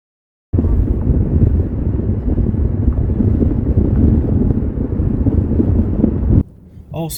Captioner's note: wind blowing